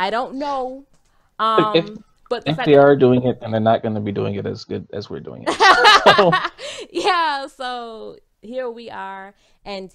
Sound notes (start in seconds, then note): 5.3 laughs